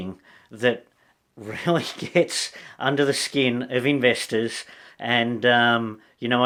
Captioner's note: laughs